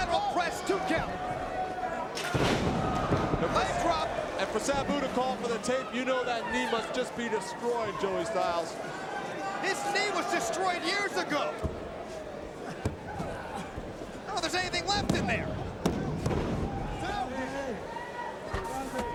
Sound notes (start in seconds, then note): 2.2 mat thumping; 16.0 mat slapping